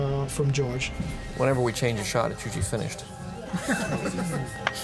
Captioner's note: laughing